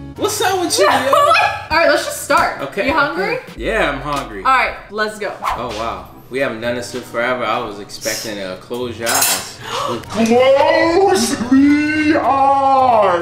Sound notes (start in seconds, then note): 0.8 laughs; 7.9 utensils clinking; 9.6 gasps